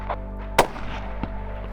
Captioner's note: gunshot